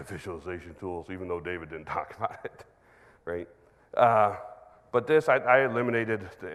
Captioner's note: chuckles